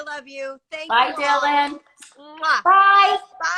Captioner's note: smooch sound